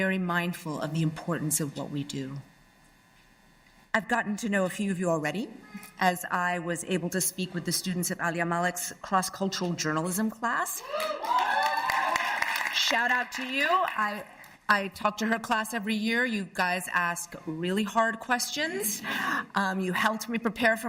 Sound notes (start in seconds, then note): 10.8 cheers and applause